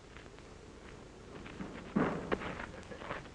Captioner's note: thumping